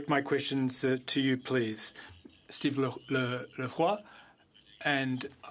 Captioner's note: speaking French